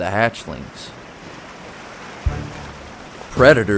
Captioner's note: water roaring